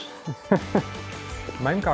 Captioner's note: laughing